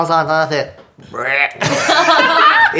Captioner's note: croaks; laughter